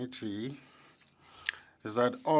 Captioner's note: speaking French